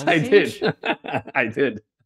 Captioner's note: laughs